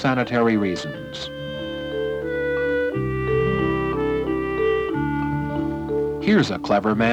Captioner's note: water being pumped